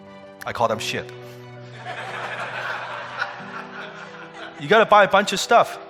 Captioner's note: audience laughing